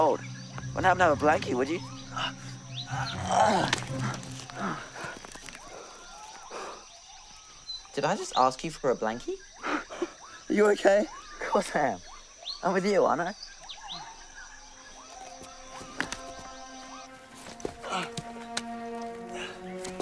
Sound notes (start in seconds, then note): 3.1 whispers; 4.1 Rikki groans